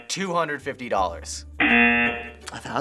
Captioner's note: rejection buzzer